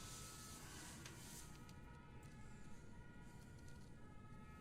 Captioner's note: faint sirens